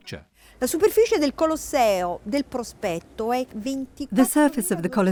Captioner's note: speaking in foreign language